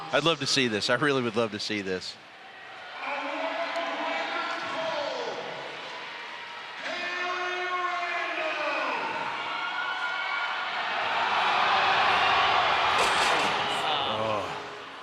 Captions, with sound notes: I would love to see this, I really would love to see this. [crowd roars]